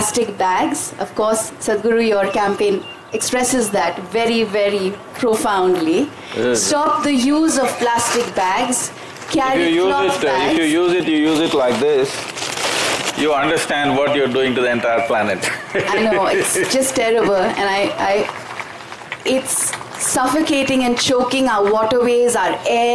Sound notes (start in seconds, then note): 15.4 laughs